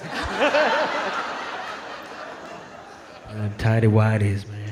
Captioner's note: audience laughing